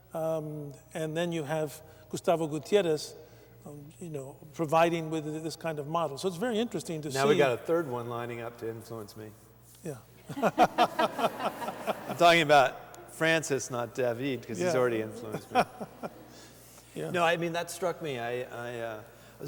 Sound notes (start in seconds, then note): 10.2 laughter; 15.1 laughter